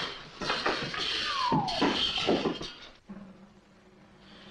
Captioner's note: cage clatters